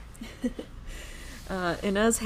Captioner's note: laughing